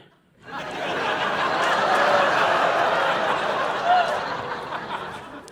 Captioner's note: audience laughing